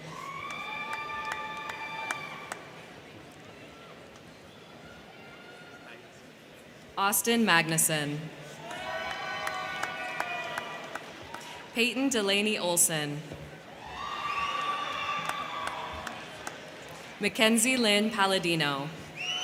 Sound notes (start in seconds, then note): 0.0 crowd cheering; 0.0 crowd clapping; 8.5 crowd cheering; 8.6 crowd clapping; 13.6 crowd cheering; 14.0 crowd clapping; 19.1 crowd cheering; 19.1 crowd clapping